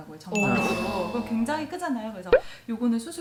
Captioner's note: surprised